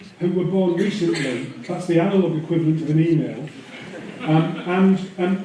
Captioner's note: laughter